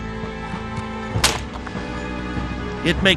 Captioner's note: whip snapping